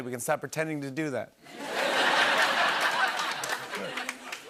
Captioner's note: laughter